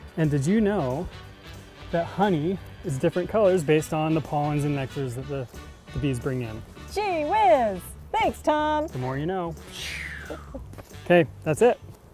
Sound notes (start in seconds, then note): 10.2 chuckling